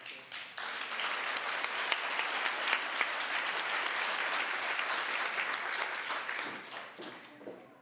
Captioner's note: applause